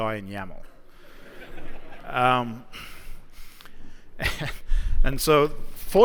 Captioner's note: laughter